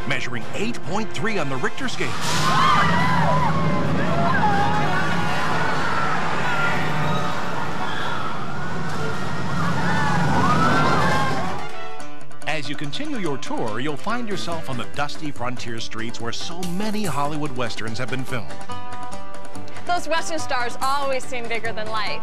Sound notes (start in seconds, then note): 2.4 crowd screaming; 9.5 dramatic music; 9.5 water gushing